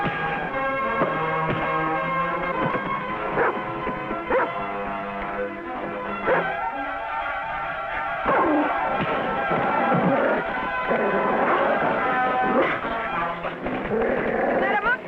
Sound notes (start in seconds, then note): 4.2 dog barking; 7.8 intense dramatic music